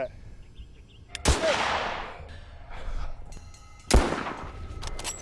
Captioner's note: gun bangs; gun bangs